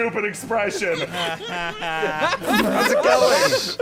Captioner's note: laughter